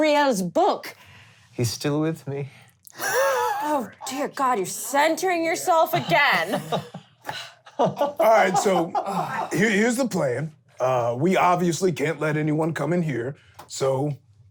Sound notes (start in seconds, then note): 3.3 laughing; 5.7 laughing